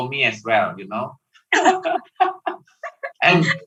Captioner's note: laughing